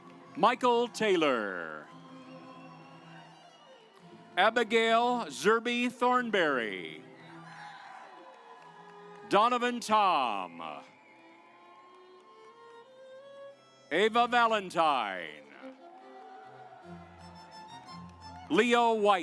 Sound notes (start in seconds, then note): 1.6 audience applauds; 6.9 audience applauds; 11.8 stately music; 16.3 stately music